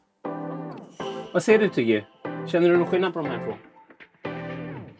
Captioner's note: Speaking Swedish to Tiggy